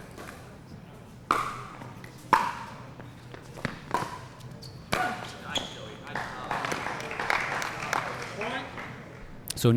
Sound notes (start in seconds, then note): 0.0 shoes squeaking; 2.3 ball being hit; 6.1 applause